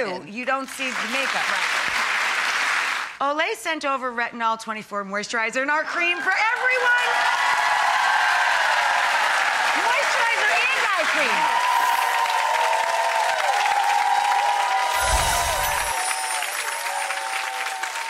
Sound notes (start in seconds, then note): 0.7 clapping; 7.4 cheering and clapping; 14.9 chiming